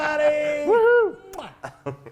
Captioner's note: laugh